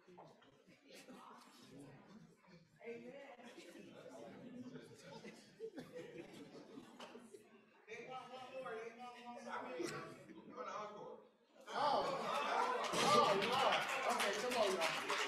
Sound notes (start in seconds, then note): 3.5 crowd chattering; 11.5 crowd chatters